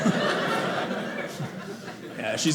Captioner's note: audience laughing